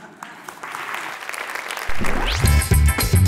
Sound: applause

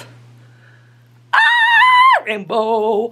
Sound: screams

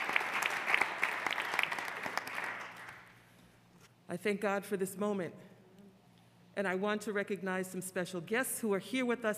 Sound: applause

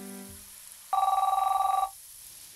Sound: phone rings

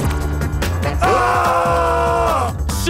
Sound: screaming

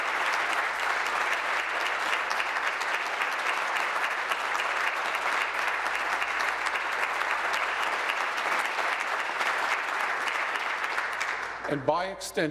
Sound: applause

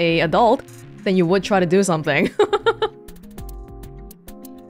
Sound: chuckles

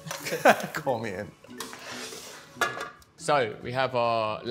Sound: laughs; relaxing music

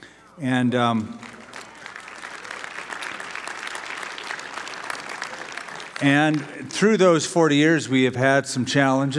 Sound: applause

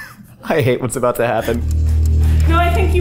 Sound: dramatic clock ticking

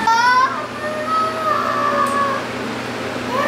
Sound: screams

